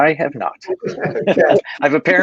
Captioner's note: laughing